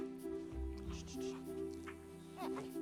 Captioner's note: shushing